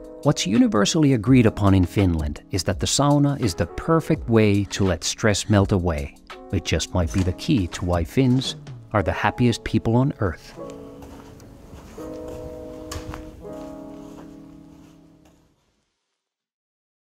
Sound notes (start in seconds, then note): 10.8 bright piano music; 10.8 footsteps shuffling